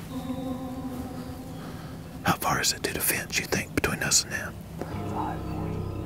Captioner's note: whispering